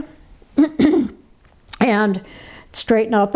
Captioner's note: clears throat